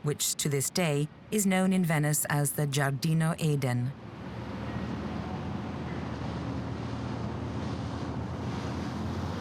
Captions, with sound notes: which to this day is known in Venice as the Giardino Eden. (waves crashing)